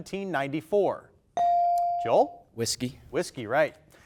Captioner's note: buzzer dings